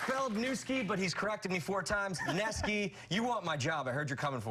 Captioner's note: cheers and applause